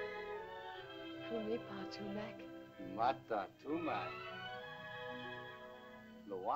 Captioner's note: speaking in caveman language